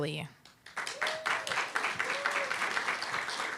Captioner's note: applause, cheer